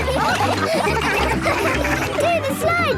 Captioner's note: all laughing